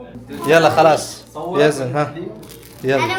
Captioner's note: Arabic